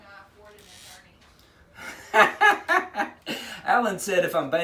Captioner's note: laughs